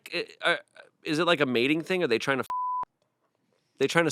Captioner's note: beep